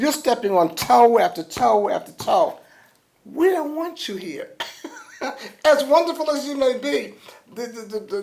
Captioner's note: laughs